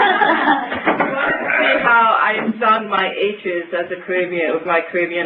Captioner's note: laughter and crosstalk